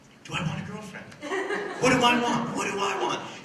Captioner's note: laughter